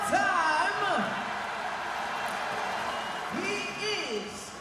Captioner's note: audience applauds